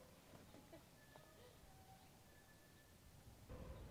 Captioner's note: Nellie chuckles